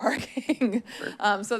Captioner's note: chuckles